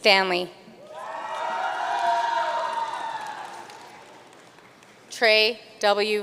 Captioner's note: audience cheering and applauding